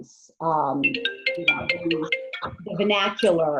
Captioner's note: phone ringing